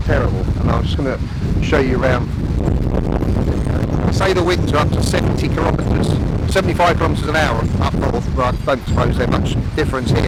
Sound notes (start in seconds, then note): 2.3 wind blows